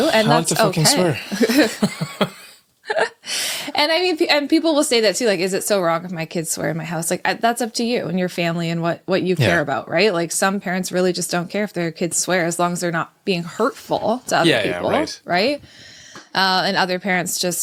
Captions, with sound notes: I want to fucking swear. OK. (Laughter) And people will say that, too, like, is it so wrong if my kids swear in my house? That's up to you and your family and what you care about, right? Some parents really just don't care if their kids swear, as long as they're not being hurtful to other people. Yeah, right. Right? And other parents just